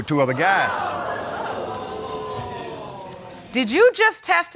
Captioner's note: audience exclaiming